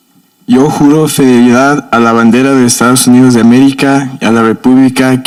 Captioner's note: speaking in foreign language